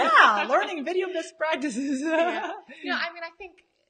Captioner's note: laughs